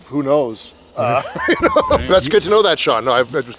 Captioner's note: laughs